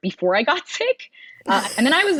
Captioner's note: laughs